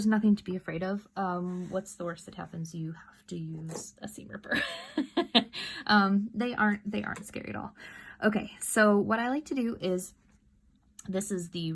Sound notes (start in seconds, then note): 5.6 laughs